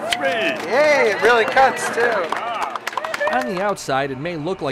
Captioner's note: clapping